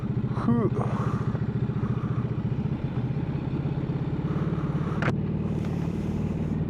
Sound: derin nefes alır

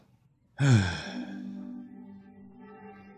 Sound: duck sighs

